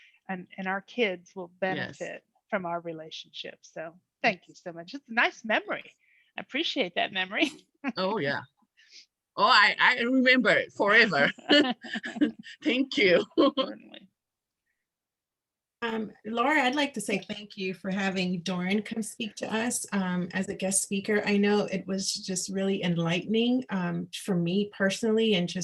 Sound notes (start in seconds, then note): 7.9 laughs; 11.0 both laughing